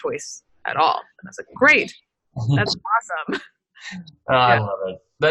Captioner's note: laughs